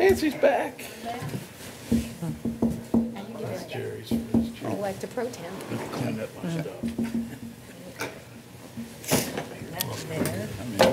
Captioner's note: chatter